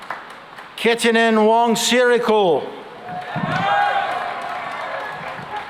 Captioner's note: cheering and applause